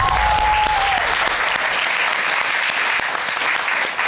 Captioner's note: crowd cheering